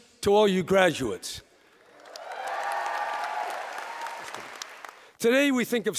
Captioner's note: applause